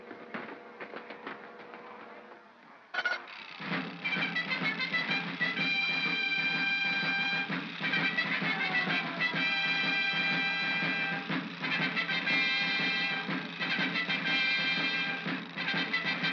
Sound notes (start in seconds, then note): 0.2 feet scrambling; 3.0 gears chattering; 3.6 triumphant music